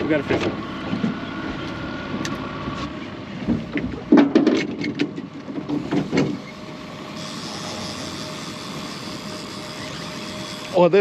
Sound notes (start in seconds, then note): 4.9 boat engine idling; 6.8 reel spinning; 7.1 clattering; 8.7 reel cranking